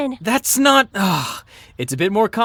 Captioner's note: sighs